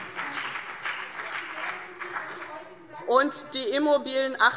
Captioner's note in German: Beifall CDU und BÜNDNIS 90/DIE GRÜNEN